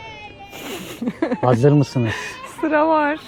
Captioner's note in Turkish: kahkaha